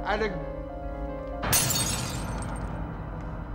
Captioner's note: glass shattering; haunting orchestral music